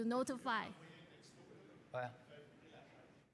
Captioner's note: talks in background